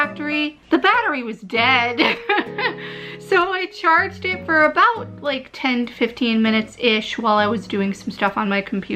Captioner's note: laughter